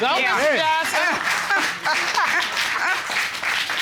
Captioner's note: judge laughs